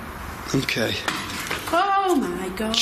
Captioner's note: thud